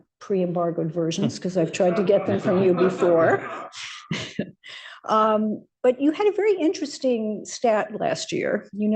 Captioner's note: laughter